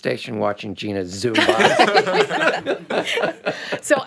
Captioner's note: group laughing